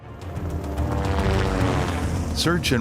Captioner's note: airplane engine roaring; sinister music